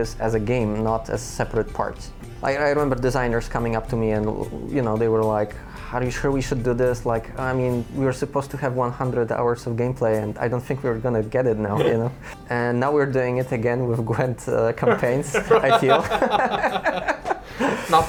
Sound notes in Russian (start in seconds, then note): 14.8 смех; 14.9 усмехается